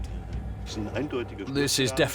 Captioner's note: speaking German